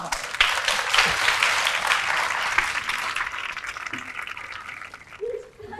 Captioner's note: applause